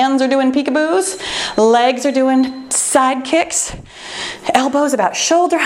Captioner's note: timer beeps